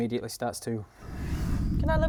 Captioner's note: whoosh